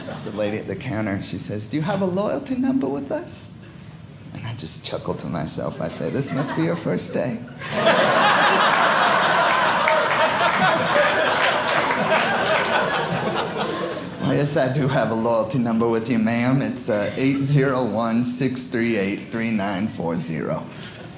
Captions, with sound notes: The lady at the counter, she says, "do you have a loyalty number "with us?" And I'd just chuckle to myself. I'd say, this must be your first day. (audience laughing) Yes, I do have a loyalty number with you, ma'am. It's 8016383940.